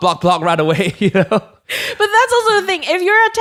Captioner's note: softly laughs